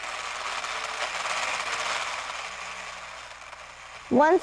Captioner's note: mechanical noise